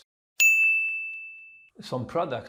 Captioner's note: pinging sound